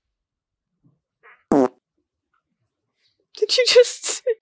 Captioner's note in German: Director Farts